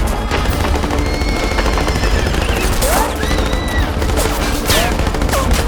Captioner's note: horses whinnying